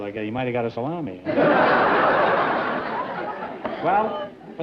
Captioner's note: laughter